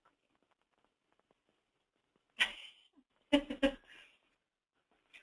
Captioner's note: laughs